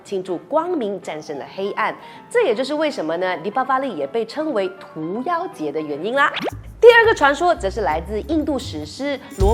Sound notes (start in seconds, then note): 5.5 in Mandarin